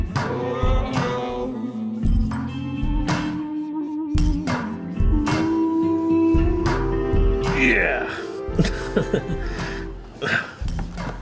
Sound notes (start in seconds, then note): 8.5 chuckles